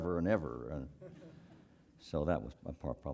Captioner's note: laugh